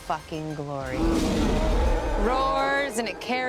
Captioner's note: roars